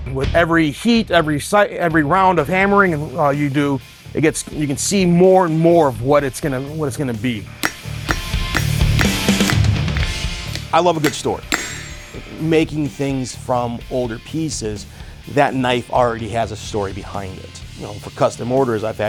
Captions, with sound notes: With every heat, every round of hammering you do, you can see more and more of what it's gonna be. (metal clanks) (dramatic music) I love a good story. Making things from older pieces, that knife already has a story behind it. You know, for custom orders,